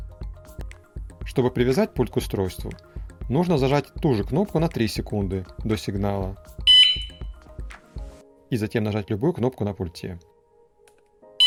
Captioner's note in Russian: сигнал